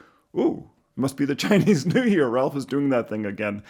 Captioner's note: chuckles